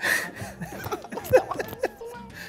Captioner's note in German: Leidende Laute